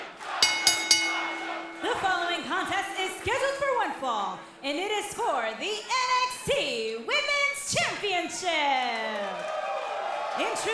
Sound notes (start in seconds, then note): 0.0 crowd cheering; 0.4 bell ringing; 7.9 crowd cheering